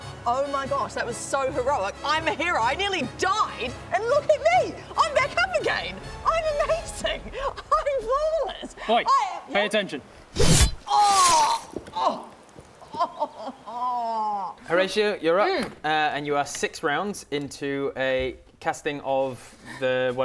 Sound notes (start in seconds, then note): 10.2 stab